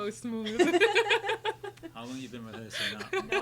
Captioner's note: laughing